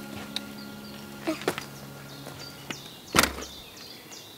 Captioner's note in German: Erschöpftes Ausatmen, Vogelgezwitscher